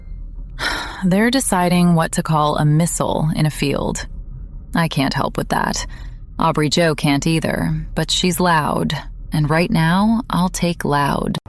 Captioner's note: sighs